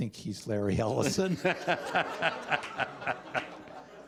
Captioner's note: laughter